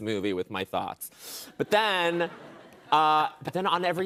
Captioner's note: laughter